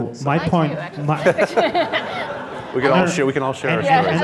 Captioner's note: laughing